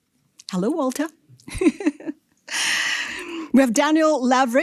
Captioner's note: chuckles